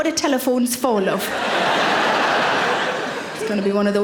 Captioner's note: audience laughing